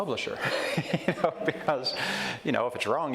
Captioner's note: chuckles